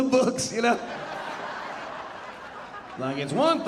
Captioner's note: audience laughing